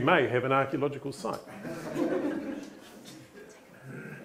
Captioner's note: laughter